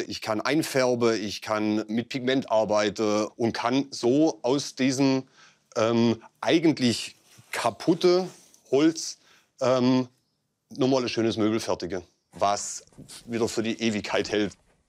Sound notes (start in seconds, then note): none